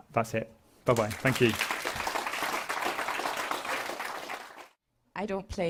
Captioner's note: applause